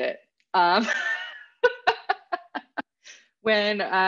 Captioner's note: laughing